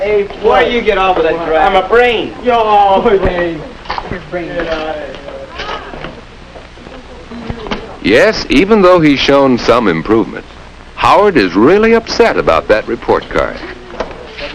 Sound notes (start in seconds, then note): 4.6 scoffs